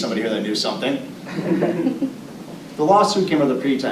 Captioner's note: audience laughing